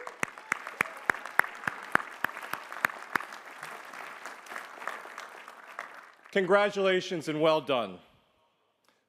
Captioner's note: applause